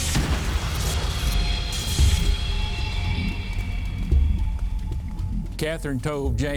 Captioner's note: ominous music; gunshot booming